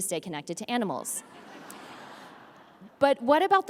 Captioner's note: audience laughs